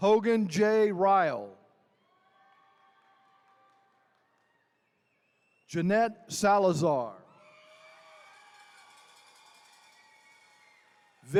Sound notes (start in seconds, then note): 1.9 attendees cheering; 7.2 attendees cheering